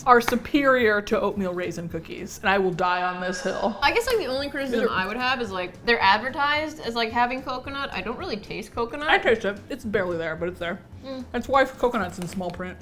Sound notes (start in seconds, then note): none